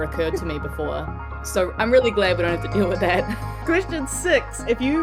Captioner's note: Ruby chuckles; chuckles